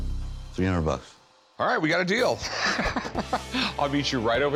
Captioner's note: laughs